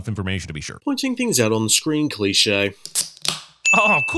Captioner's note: soda tab opening